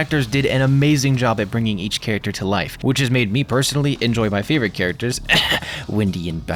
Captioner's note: ahem